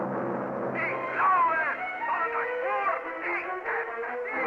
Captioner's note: speaking German